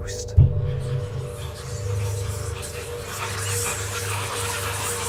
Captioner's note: voices whispering